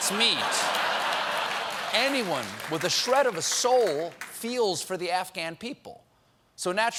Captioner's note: laughter